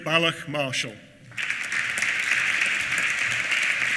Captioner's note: applause